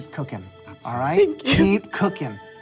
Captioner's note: crying